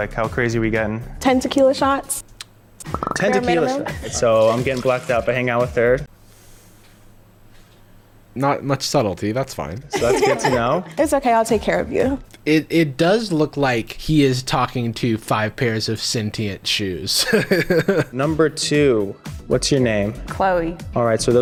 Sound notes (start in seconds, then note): 9.9 girls laughing; 17.0 chuckles